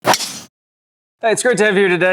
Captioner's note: ball cracking